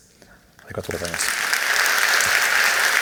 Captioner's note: applause